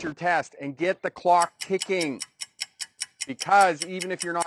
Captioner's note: clock ticks